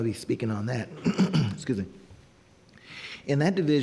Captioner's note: clearing throat